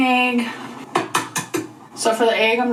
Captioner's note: egg thumping